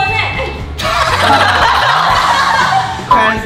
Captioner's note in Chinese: 哄堂大笑